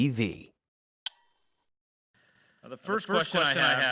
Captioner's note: bell dings